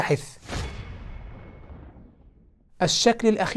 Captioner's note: sound effect